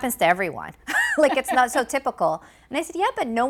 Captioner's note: laughing